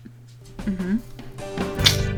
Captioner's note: mouth click